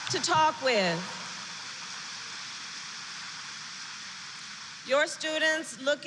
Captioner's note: applause